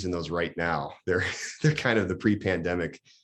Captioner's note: laughs